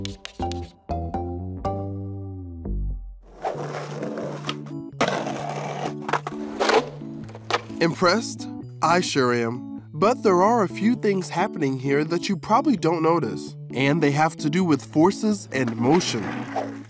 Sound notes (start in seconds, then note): 4.8 skateboard grinds